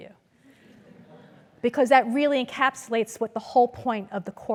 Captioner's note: laugh